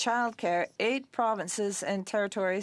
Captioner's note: speaking French